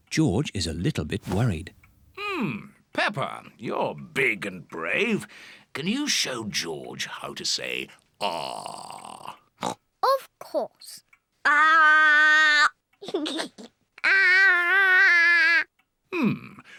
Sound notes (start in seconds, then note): 9.6 oinks; 13.0 giggles